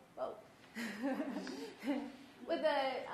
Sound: nervous laughter

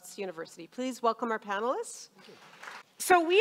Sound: audience applauding

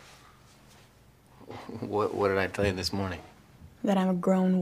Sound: stutters

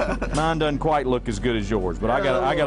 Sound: laughter

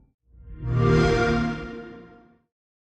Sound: Xbox Sound

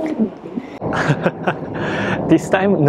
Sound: laughs

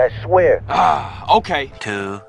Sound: groans

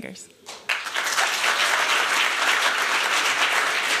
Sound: applause

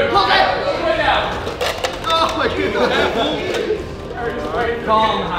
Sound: cups falling

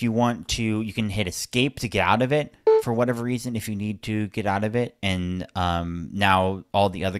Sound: beep sound

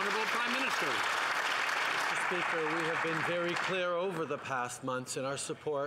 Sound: some Applause

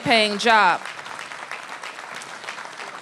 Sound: applause

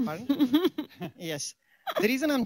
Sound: laughs

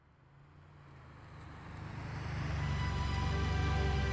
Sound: engine rumbling; gentle music

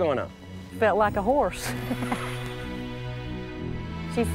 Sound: laughs

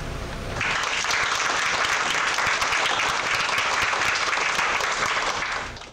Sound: clapping

